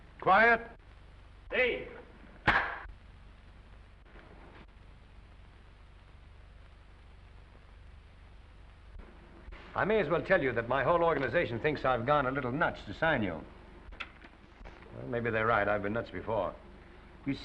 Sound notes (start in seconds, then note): 2.4 clapperboard slams